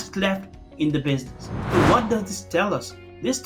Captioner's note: air whooshing